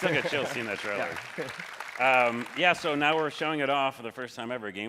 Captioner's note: applause